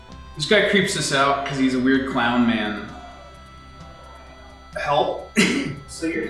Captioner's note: laughs